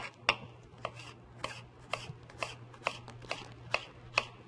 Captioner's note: sound of knife slicing bell pepper